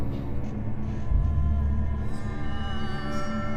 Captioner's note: rumbling stops